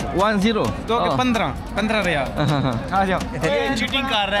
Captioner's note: speaking Arabic